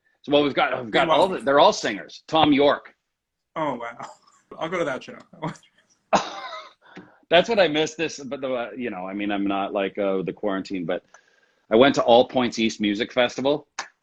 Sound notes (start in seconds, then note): 6.4 laughs